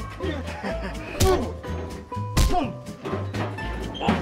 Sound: chuckling

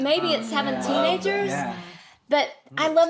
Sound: others murmur agreement

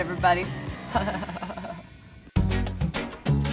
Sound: laughing

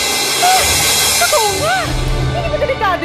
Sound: gasps

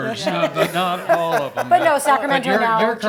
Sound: laugh

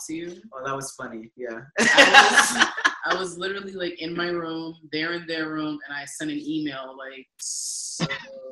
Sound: laughing

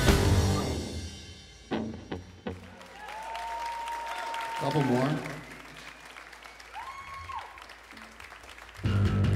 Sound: applause

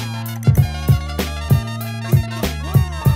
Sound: laughing

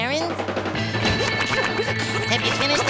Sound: panting

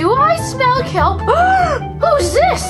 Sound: gasping

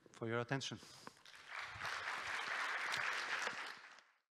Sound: applause

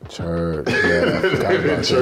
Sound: laughter

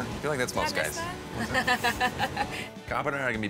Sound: laughs

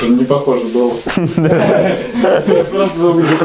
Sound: laughing

